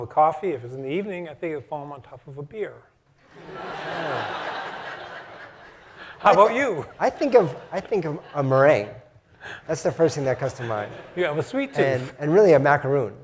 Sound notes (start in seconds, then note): 3.3 laugh